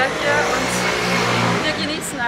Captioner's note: aaaaah ..... loud motorcycle...... why??